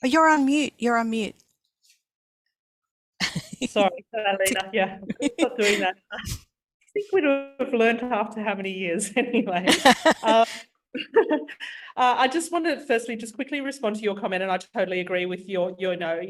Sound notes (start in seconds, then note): 9.6 laughs; 12.5 laughs